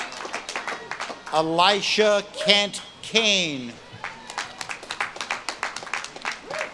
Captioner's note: audience claps and cheers